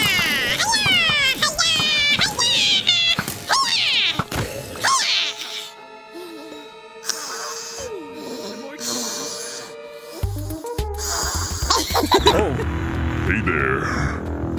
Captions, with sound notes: Hi-yah! Hi-yah! Hi-yah! Hi-yah! Hi-yah! Hi-yah! [Heavy Breathing] [LAUGHTER] Hey, there.